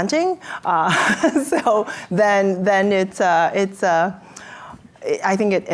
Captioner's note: laughs